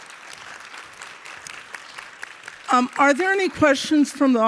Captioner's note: audience applauding